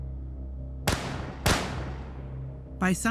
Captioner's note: gun shots firing